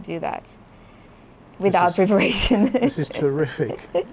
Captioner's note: laughs